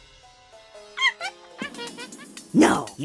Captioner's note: monkey noises